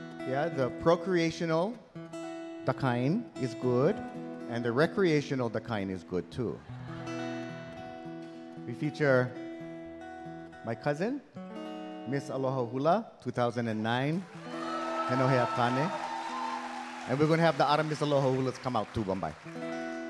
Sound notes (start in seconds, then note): 14.2 audience cheering; 15.2 speaking in Hawaiian; 19.8 gentle guitar music